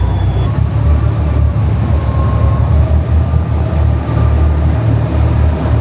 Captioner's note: engine continues rumbling